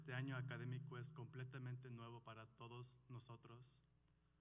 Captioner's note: speaking Spanish Spanish